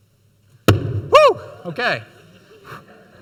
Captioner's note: balloon pops